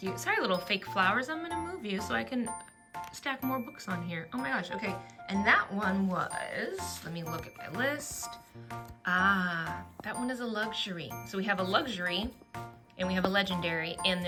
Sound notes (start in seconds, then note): none